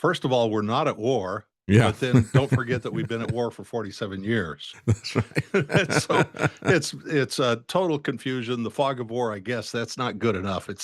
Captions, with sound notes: First of all, we're not at war, but then don't forget that we've been at war for 47 years. That's right. (Laughing) So it's a total confusion. The fog of war, I guess, that's not good enough.